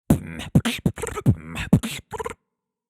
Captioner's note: beatboxing